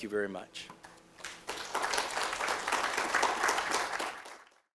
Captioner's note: applause